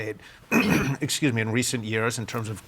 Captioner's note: clears throat